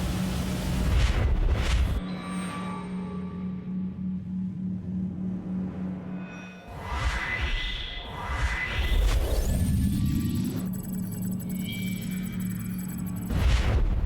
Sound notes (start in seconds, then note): 2.0 beeping; 2.0 whooshing